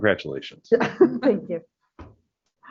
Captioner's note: chuckle